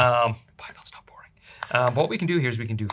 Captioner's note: whispers